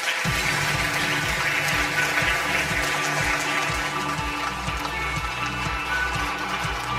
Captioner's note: audience applause; upbeat music